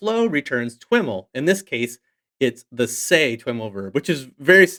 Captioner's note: faintly speaking